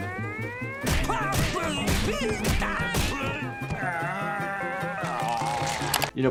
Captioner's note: blows landing; Squidward exclaiming